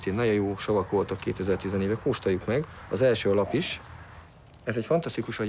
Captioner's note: speaking in foreign language